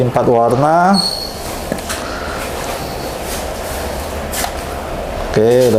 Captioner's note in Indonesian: suara tinta dituang